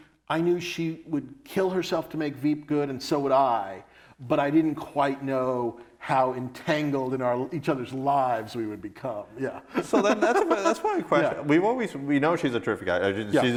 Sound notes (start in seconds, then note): 9.6 laughs